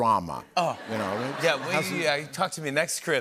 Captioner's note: laughter